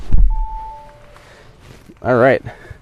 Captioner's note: chiming